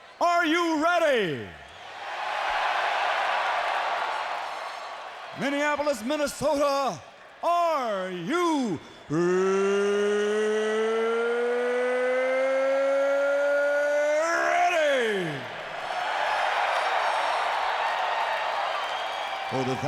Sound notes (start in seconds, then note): 2.2 audience cheering; 16.4 audience cheers